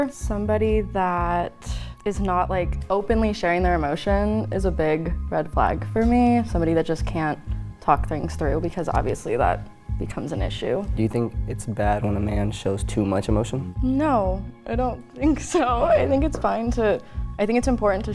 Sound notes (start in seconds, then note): 15.2 laughs